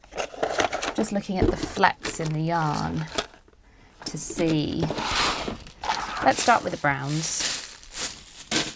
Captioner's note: rustling